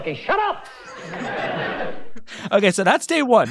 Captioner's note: audience laughing